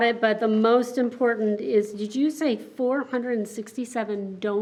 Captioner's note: none